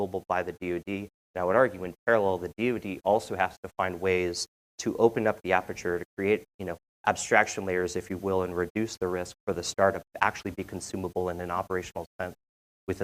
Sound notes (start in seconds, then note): none